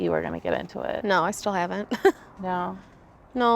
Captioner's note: chuckles